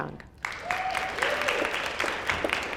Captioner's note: applause